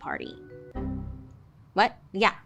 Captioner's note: computer error chimes